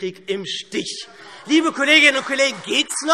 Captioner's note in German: Beifall SPD und Freie Demokraten